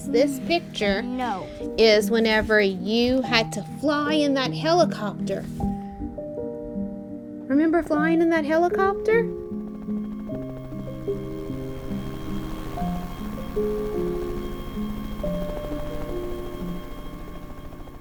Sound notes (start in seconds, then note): 9.9 gentle music continues; 9.9 helicopter whirring